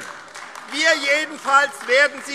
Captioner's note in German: Beifall AfD